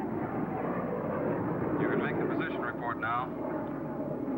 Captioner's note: man On Radio